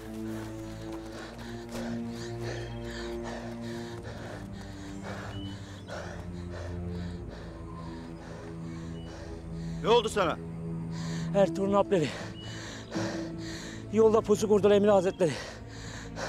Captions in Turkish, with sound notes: (Nefes sesi) Ne oldu sana? Ertuğrul'un Alpleri. Yolda pusu kurdu Emir Hazretleri.